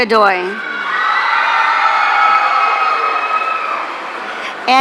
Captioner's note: audience cheering